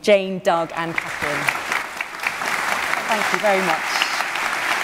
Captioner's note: applause